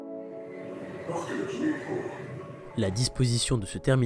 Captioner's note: metro announcement